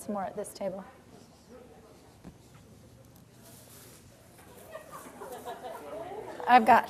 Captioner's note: general chatter